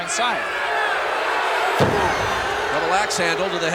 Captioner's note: audience cheering